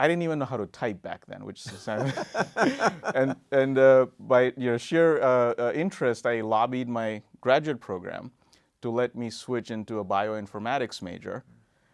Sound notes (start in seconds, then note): 1.6 laughing